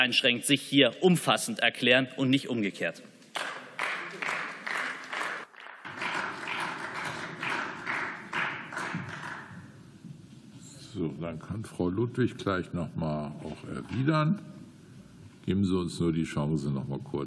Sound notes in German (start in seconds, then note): 3.3 Beifall